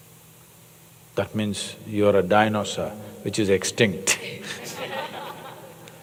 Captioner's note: laughter